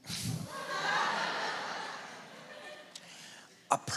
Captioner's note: laughter